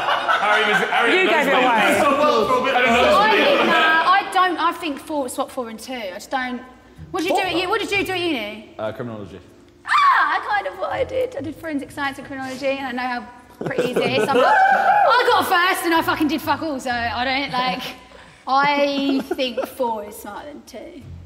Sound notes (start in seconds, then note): 0.0 Sidemen laughing; 14.3 Sidemen members yelling